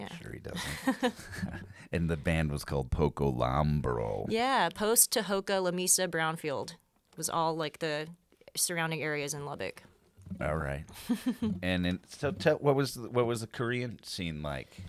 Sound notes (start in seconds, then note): 11.2 laughs